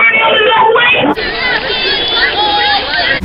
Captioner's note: cheers